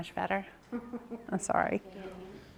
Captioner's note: participant laughs